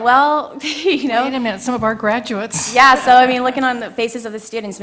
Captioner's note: laugh